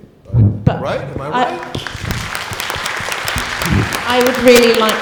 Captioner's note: audience applauding